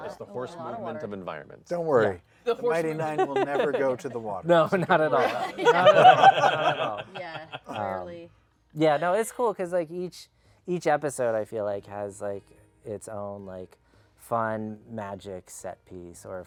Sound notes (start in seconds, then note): 4.6 laughter